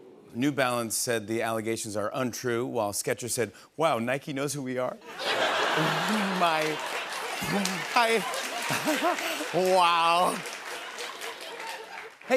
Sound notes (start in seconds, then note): 5.1 laughter; 8.5 giggles